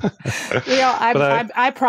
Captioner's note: laughs